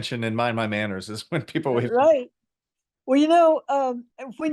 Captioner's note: laughs